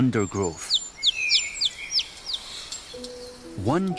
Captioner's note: chirping